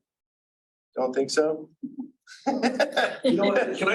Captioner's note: members laughing